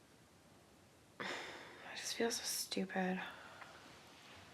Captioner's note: sigh